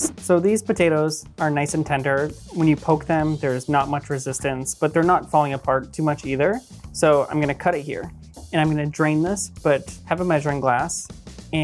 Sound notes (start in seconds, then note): none